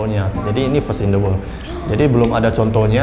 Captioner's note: claps